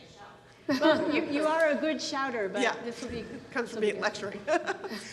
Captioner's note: murmurs